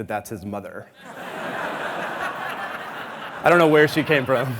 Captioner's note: audience laughing